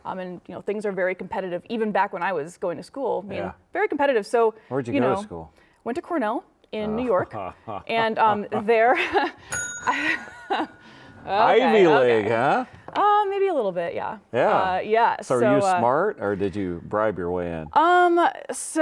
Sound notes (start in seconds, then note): 7.5 laughing; 9.2 laughs; 9.4 bell dings